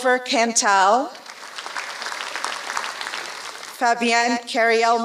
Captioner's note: applause